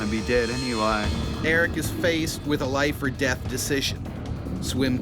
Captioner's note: voiceover